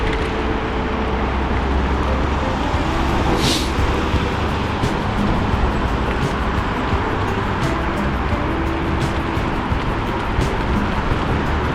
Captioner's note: wind Blowing